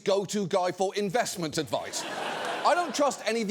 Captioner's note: studio audience laughing